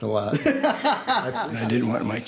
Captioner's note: laughs